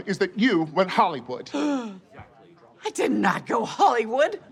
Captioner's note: gasps